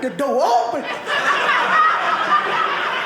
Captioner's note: audience laughing